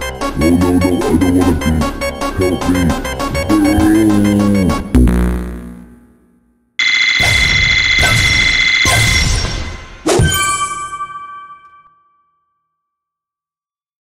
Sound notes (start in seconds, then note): 6.8 Angry Birds Score Sound Effect; 10.1 new Highscore Sound Effect